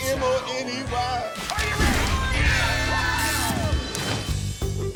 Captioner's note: people cheering; upbeat music